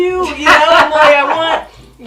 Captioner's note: laughs